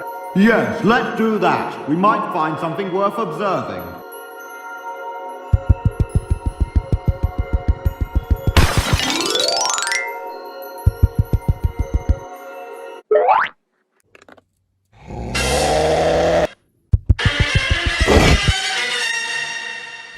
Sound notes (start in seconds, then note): 5.5 footsteps; 10.8 footsteps; 15.0 beast growls; 16.9 footsteps